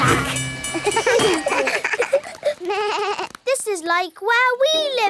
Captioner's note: all laugh